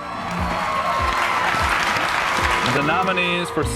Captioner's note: crowd cheering and applauding